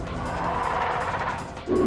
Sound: Rodan 2019 chitters

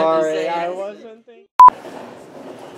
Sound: beep

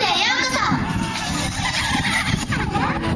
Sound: giggles

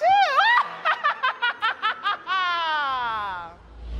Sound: evil laughter

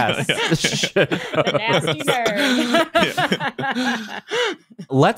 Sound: laughing

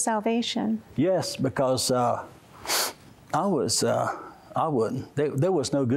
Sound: sniffs

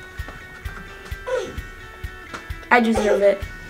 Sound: grunting

